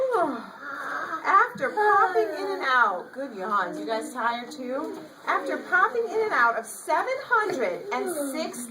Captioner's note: children make yawning sounds in the background